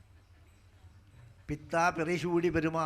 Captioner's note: speaking in Sanskrit